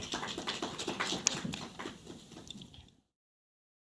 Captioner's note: audience applauds